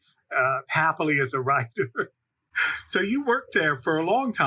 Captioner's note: laghs